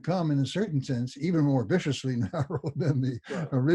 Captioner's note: laughs